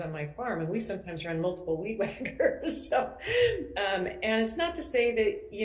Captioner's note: laughs